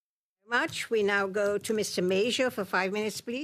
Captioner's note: speaking French